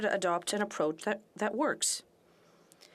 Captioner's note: speaking French